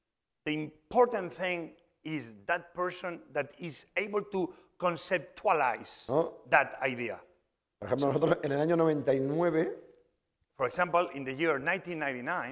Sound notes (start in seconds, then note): 8.8 speaking spanish